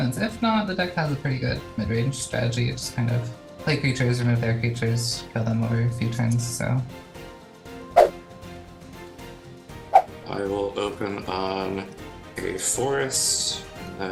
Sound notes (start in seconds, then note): 7.9 swooshing; 8.0 upbeat music